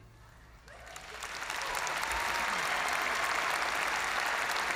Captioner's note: audience cheering and applauding